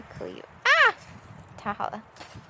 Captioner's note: let out a strange cry